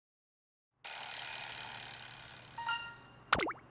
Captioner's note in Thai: กริ๊งงงงงงงงง!